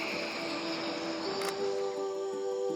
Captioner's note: camera clicks